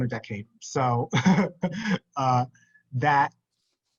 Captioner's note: laughs